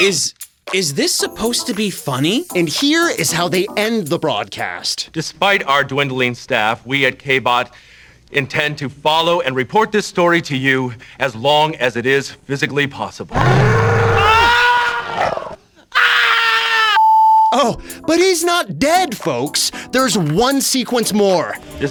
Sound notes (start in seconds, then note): 13.3 growl